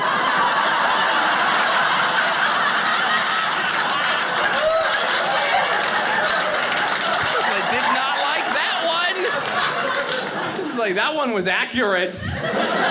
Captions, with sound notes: (audience laughing) (audience cheering) I was like, "Did not like that one!" I was like, "That one was accurate.